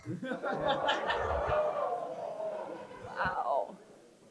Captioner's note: crowd chuckles